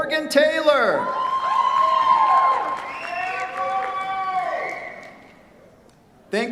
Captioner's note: cheers, applause